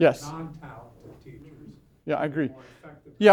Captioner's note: voiceover